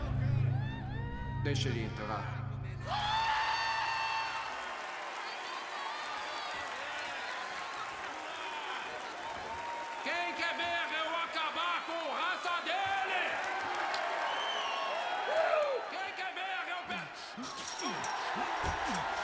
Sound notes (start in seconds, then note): 2.4 audience cheering; 12.9 all cheering